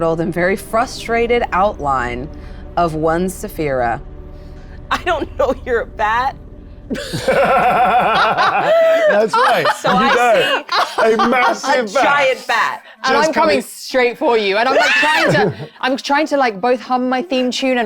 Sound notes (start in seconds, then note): 6.9 laughs